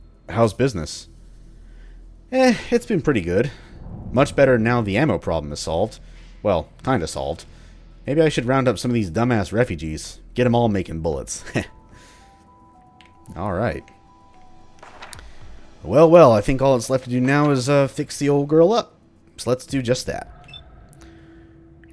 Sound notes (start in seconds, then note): 14.4 journal opens; 14.6 journal closes